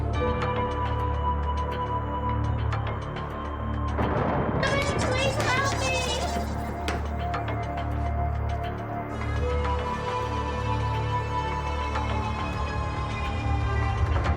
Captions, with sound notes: (ominous and tense electronic music) - Somebody please, help me! (pounding on door) (ominous and tense electronic music)